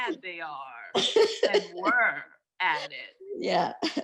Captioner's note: laughing